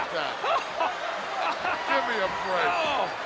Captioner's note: laughing